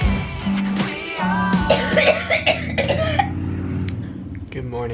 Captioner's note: coughing